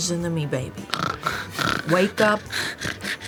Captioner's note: snoring